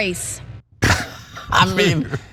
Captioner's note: laugh